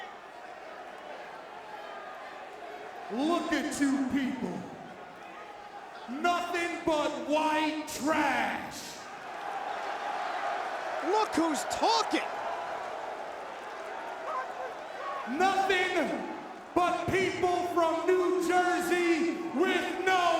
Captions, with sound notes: Look at you people. Nothing but white trash! (crowd boos) Look who's talking! Nothing but people from New Jersey with no heart!